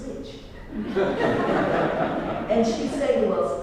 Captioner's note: laugh